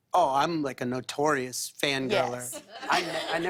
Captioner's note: laughter